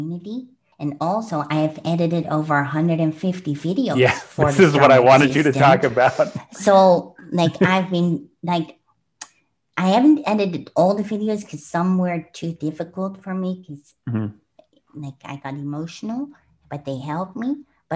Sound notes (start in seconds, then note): 3.9 laughs; 7.1 clicks tongue